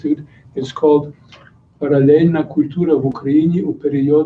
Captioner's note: non-english speech